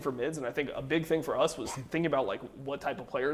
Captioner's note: laughs